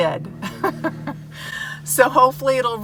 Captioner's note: laughing